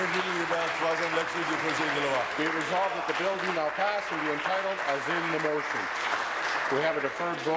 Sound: applause

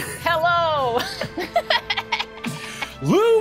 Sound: laughing

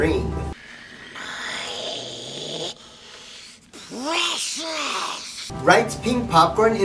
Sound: sounding like Gollum

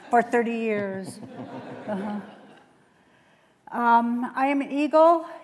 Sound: laughter

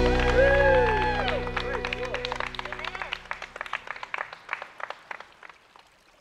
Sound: the attendees applaud, and cry out in joy

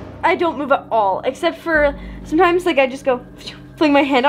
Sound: exhales

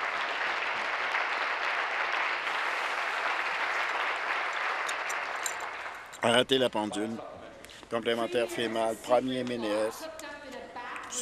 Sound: applause

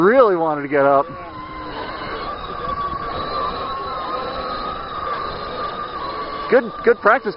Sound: robot motor noise

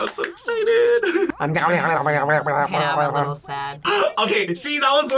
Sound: speaks gibberish

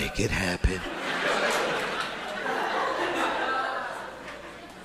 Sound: audience laughing

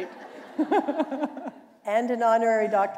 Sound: laughter

